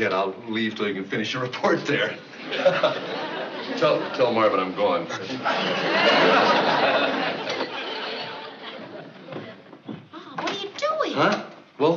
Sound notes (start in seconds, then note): 2.3 laughing